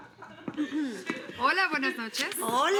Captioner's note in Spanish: Risas